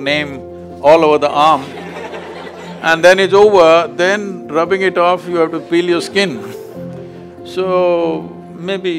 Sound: laughter

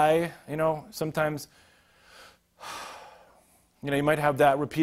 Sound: sighing

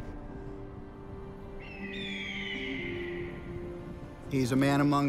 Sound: eagle crying

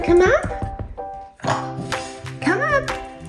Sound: grumble

